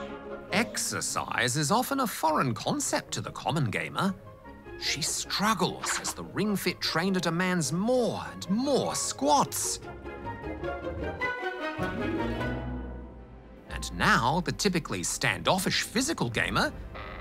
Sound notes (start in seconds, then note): none